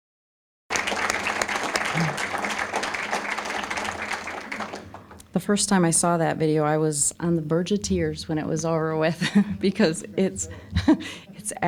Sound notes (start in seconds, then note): 0.7 applause; 10.5 chuckling